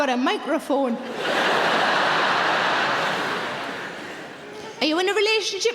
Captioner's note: audience laughing